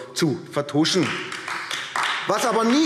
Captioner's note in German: Beifall AfD